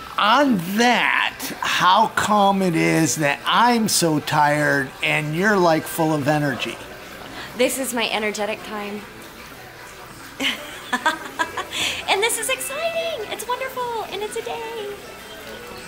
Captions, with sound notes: - On that, how come it is that I'm so tired and you're full of energy? - This is my energetic time. (laughing) And this is exciting, it's wonderful, and it's a day!